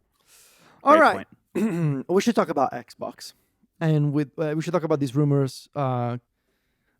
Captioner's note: clears throat